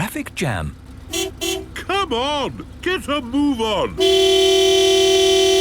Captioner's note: honking